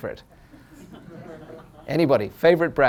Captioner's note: laughter